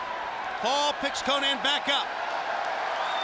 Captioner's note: crowd chatter